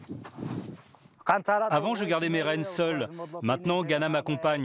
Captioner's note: foreign spoken audio